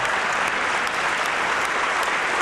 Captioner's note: applause